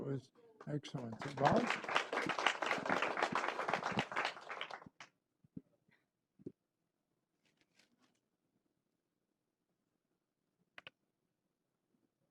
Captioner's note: applause